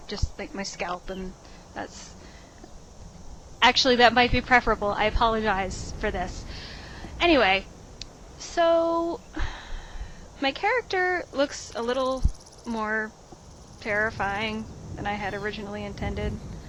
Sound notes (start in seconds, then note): 9.3 sigh